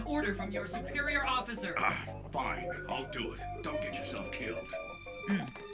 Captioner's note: groans